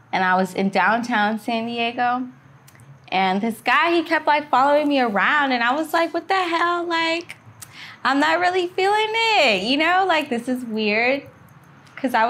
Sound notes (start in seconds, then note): none